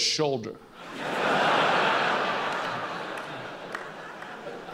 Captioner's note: laughs